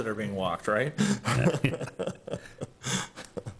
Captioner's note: chuckles